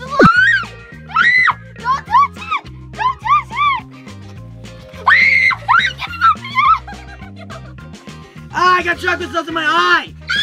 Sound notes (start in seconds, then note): 0.2 special effects blooping; 1.0 screaming; 5.0 screaming; 10.2 screaming